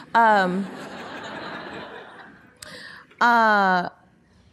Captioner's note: audience laughing